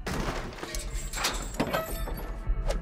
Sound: crashing

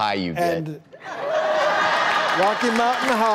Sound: audience laughing

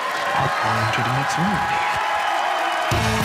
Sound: cheers and applause

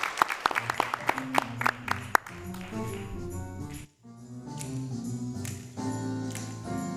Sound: applause

